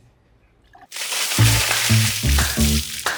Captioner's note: water splash